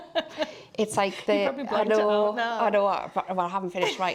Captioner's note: laughing